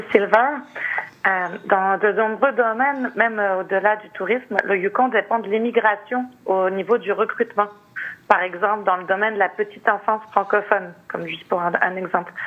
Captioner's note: speaking French